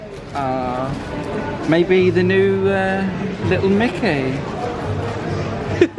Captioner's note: giggles